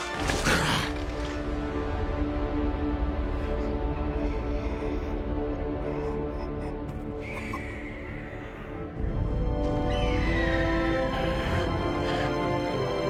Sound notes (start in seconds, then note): 3.3 gasping; 9.7 screams